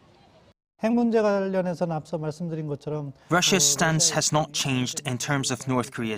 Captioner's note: Korean